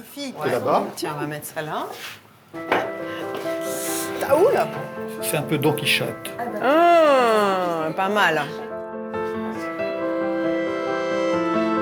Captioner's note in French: grognement